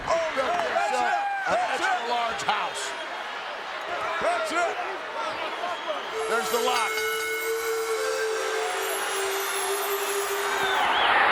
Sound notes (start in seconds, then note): 6.1 bell rings; 8.1 audience cheers; 8.1 bright music; 11.1 audience cheers